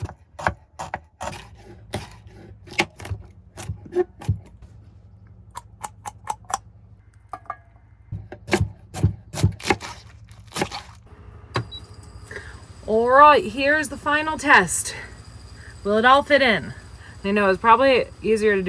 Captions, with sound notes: (crunching noises) (chopping noises) All right, here's the final test. Will it all fit in? I know it was probably easier